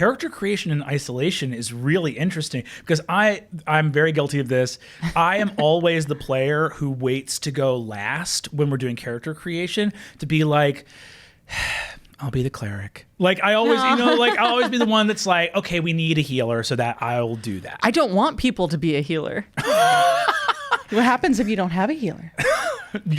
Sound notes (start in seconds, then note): 11.4 sighs; 19.6 laughs